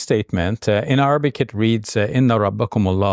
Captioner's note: talks Arabic